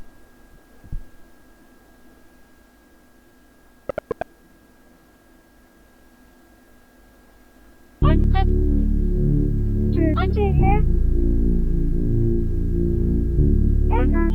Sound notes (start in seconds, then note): 8.0 uneasy music; 8.0 Mother beeping